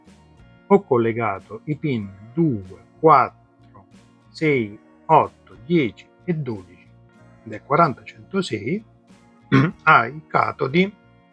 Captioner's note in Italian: schiarire la voce